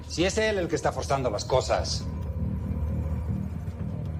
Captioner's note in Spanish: none